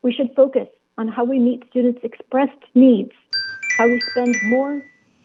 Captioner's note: chime